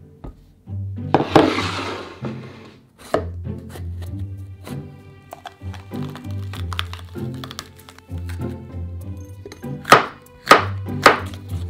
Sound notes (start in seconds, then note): 1.1 bowl sliding; 3.2 knife cutting